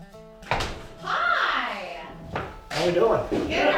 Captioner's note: laid-back country music; door taps